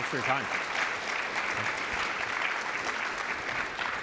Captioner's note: applause